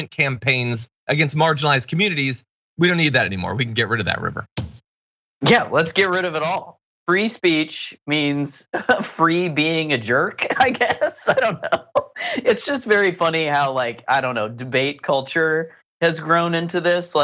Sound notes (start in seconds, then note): 10.4 laugh